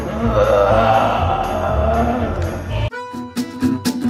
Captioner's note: spooky voice